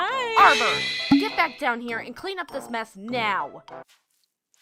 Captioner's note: none